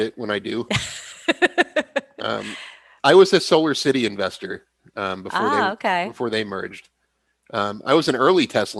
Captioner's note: laughs